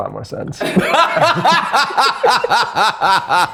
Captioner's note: laughing